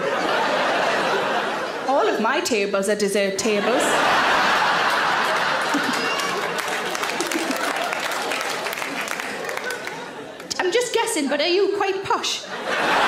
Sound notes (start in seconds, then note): 0.0 audience laughs; 3.6 audience laughs and applauds; 5.6 Sarah giggles; 7.2 audience applaud; 12.4 audience laughs